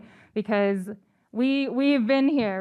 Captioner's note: none